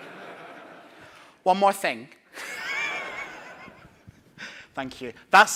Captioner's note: laughing